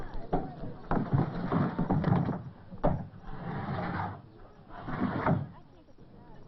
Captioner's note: thumping